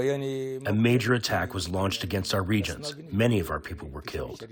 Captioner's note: through translator